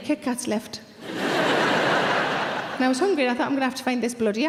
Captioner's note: audience laughs